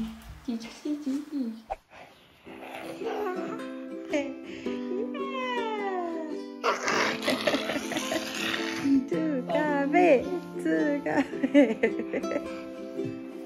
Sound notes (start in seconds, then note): 11.4 laughs